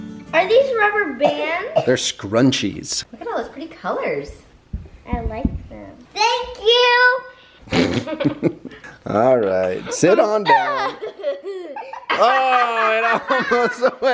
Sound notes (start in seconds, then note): 7.7 laughing